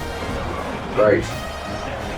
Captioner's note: crowd Noises